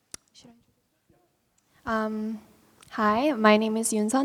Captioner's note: murmuring